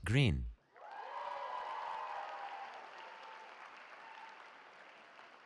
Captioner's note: cheering